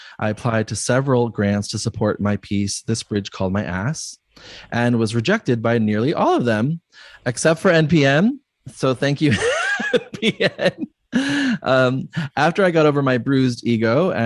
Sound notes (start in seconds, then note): 9.2 laughs